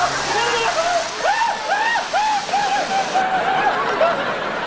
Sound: screaming

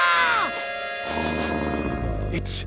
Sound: sniffing; growling

